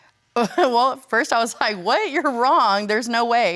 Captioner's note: chuckling